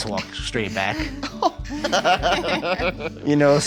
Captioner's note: laughter